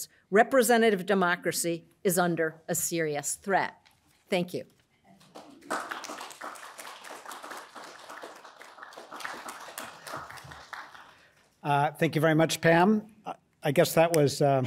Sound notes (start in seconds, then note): 5.2 audience applauds